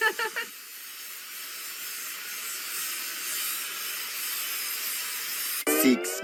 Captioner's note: laughing; buzzing